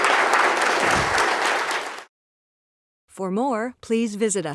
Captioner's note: applause